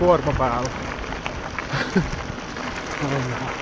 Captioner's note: laughter